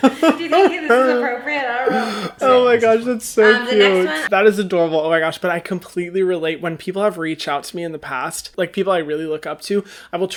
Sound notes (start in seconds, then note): 2.6 laughs